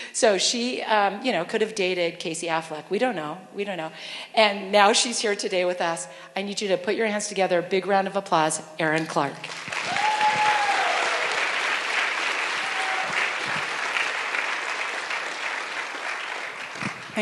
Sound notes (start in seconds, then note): 9.4 applause